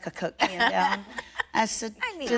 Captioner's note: laughter